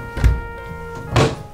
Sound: fridge door thuds

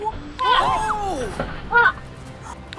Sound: whack! Whack!

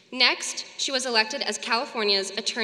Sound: none

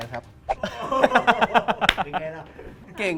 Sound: laughs

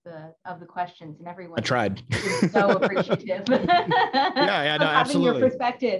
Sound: laughs

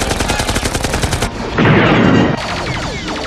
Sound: rapid gunfire; cannon shot; gunfire

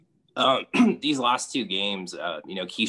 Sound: coughs

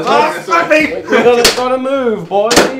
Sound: mumbling in pain

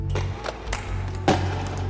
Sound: gun shots

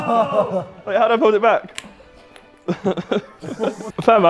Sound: Sidemen laughing; laughs

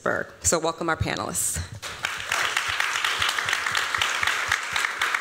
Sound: applause

